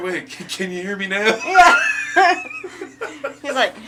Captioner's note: laughing